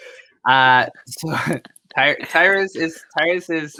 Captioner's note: all chuckle